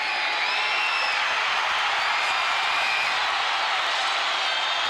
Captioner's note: crowd cheers